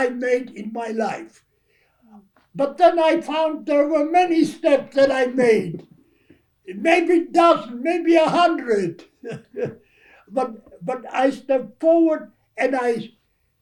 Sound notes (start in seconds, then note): 10.1 laughs